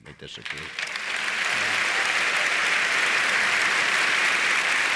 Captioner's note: audience applauds